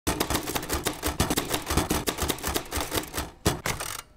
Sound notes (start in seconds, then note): 0.1 typing